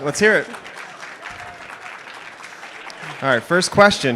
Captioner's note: applause